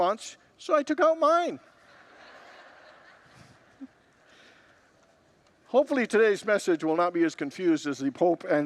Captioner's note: congregants laugh